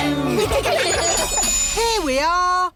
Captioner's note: laughter